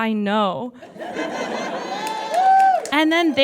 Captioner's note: audience laughs; scattered cheers and applause